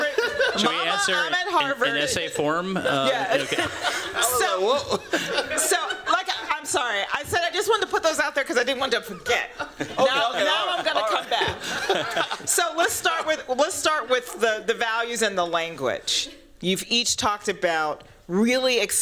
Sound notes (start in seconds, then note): 2.8 laughter